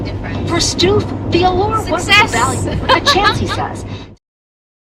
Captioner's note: laughs joyfully